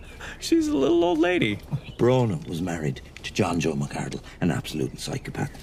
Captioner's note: none